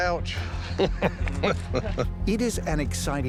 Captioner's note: laughter